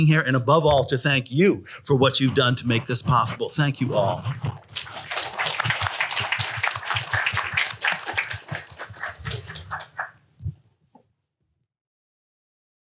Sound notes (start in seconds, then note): 4.2 applause